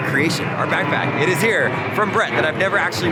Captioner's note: airplane roaring